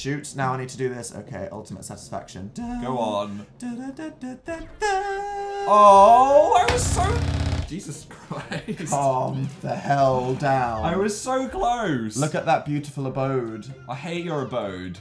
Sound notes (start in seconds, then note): 6.6 contoller vibrating